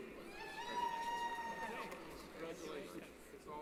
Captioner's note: cheering